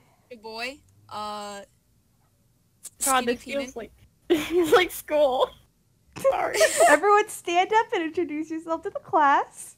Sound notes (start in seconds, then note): 4.2 laughing